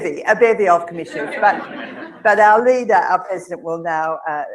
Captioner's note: laugh